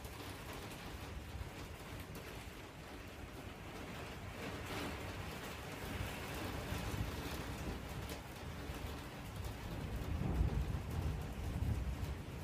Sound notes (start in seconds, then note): 4.7 the wind picks up causing it to hit harder on my window; 9.5 roll of thunder, rain stays constant